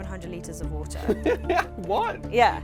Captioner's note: laughs